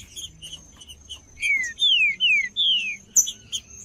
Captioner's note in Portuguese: trinca ferro cantando